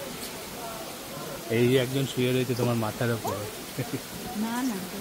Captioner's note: Laughs